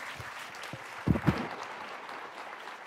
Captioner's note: applause